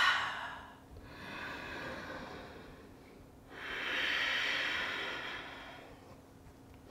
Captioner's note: heavy breathing